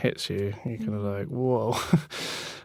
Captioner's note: laughing